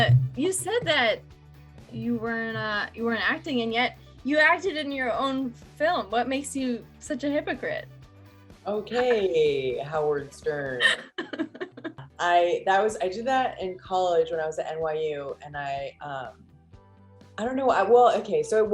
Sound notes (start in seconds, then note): 10.8 laughs